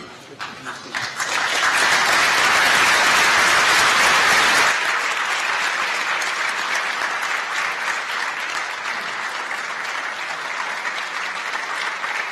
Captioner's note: applause